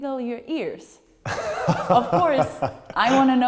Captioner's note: lacht